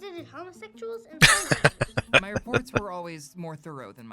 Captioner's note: laughing